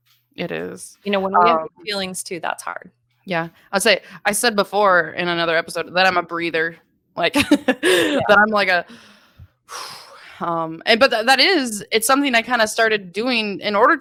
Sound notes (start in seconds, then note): 7.4 laughing; 8.8 inhaling deeply